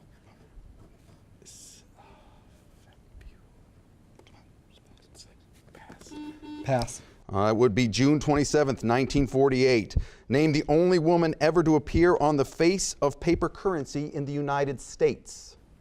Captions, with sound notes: (contestants whispering) (buzzer beeping) - Pass. - It would be June 27, 1948. Name the only woman to ever appear on the face of paper currency in the United States.